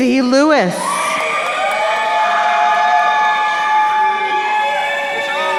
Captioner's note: crowd cheering